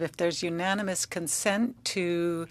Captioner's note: speaking French